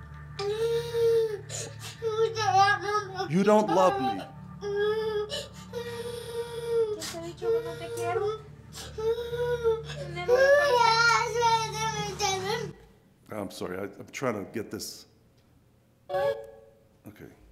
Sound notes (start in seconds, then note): 7.3 Spanish speaking; 10.9 loud crying